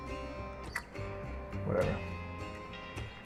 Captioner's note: tsk